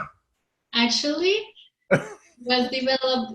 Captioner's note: laughs